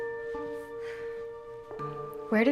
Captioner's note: sighs